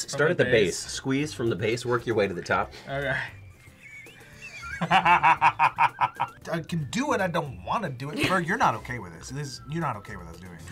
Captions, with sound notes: Start at the base. Squeeze from the base. Work your way to the top. - All right. (laughs) - (wheezes) - I can do it. I don't wanna do it. Ferg, you're not okay with this. You're not okay with us doing it.